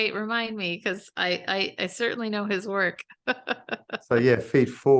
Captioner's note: laughs